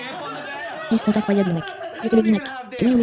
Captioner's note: laughing